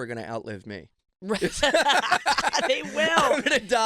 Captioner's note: laughing